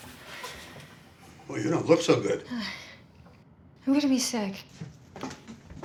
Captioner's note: sighs